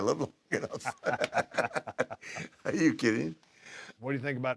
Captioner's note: laugh